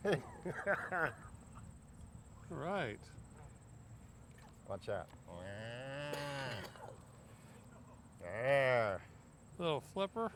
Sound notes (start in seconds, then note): 5.9 makes moo sounds